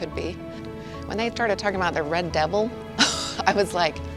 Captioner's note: chuckles